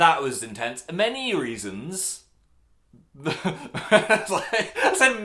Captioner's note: laughs